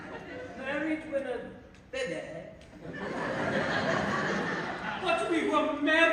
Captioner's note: laughter; laughter